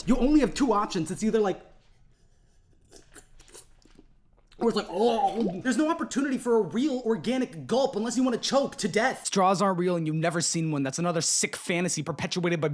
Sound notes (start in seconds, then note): 2.4 sip sip; 4.5 gurgle gurgle